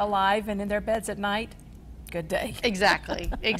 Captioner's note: laughs